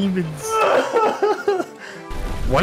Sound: crying noises

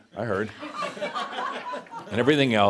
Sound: some laughter

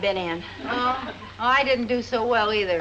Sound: audience laughs

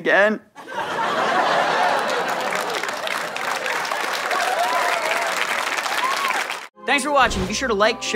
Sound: audience laughter and applause

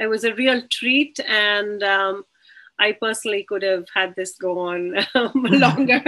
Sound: laughs

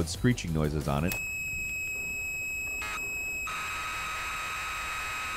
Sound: tape screeching

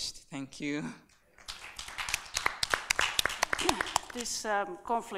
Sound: applauding

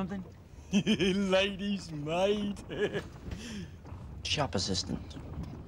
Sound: laugh

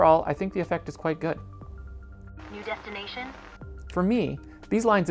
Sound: with radio static

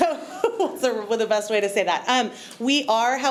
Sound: chuckles

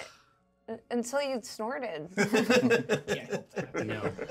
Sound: speaker laughs

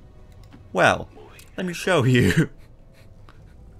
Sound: the chuckling begins

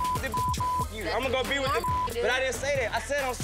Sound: beep

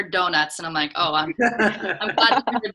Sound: laughs

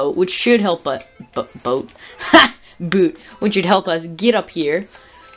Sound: odd laugh

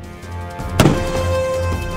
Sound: gunshot

